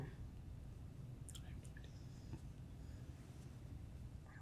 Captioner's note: faintly speaking